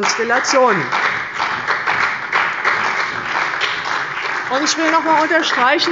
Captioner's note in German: Beifall bei der CDU und dem BÜNDNIS 90/DIE GRÜNEN